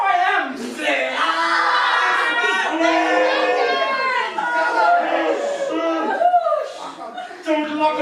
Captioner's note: lots of screaming and crying and farting